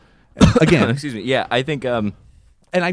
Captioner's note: coughs